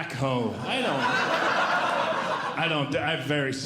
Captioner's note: audience Laughing